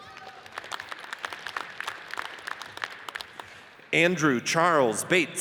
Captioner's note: audience applauds